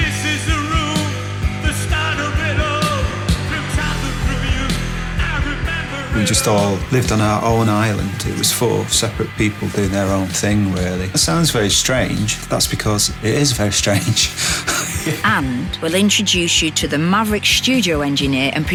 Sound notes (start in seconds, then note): 13.1 laughs